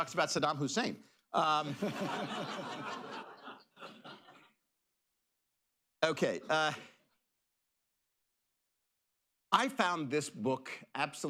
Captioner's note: laughter